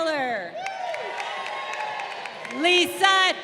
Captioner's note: crowd cheering